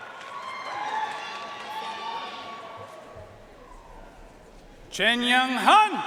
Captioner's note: audience cheering and applauding